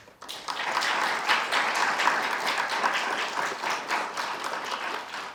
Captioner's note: audience applauding